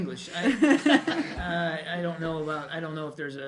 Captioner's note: laughter